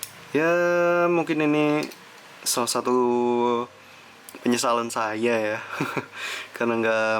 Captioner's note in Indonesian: tertawa